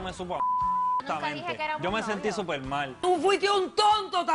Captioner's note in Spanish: Bip